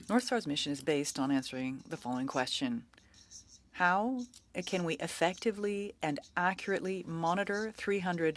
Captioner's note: speaking French